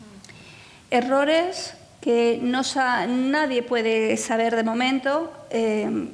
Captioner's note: speaking in foreign language